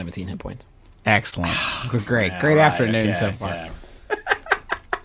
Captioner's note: sighs; laughs